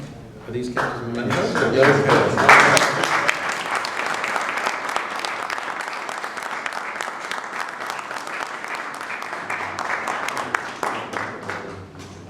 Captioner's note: applause